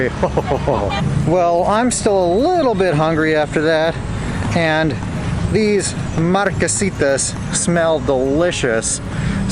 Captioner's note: evil Laugh